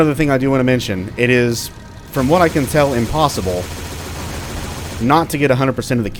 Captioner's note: moar .30 Cal, continues, indistinct